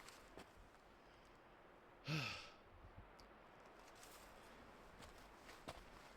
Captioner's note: sighs